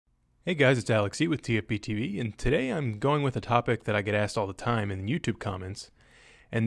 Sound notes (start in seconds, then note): 0.1 voiceover